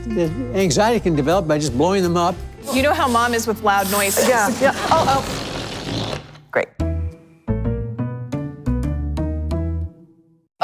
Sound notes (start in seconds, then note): 5.2 balloon deflating; 6.6 playful music